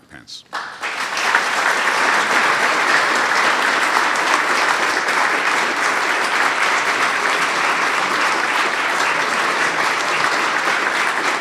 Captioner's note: applause